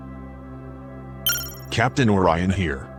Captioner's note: chime